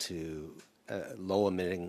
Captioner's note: speaking in French